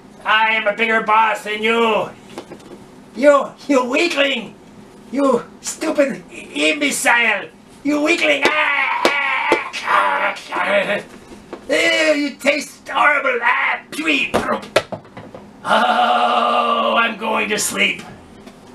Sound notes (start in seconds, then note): 8.2 they thwack each other loudly